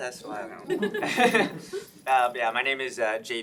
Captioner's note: chuckles